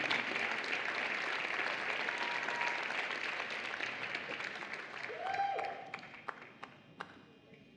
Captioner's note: applause